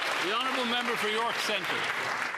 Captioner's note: applause